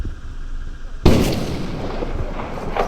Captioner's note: gunshot